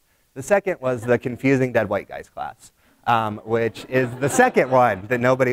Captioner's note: laughter from audience